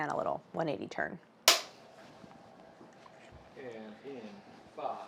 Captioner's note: clap board claps